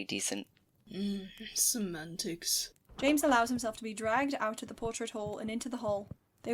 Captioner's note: door opens, footsteps start